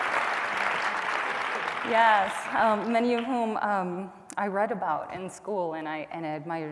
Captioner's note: applause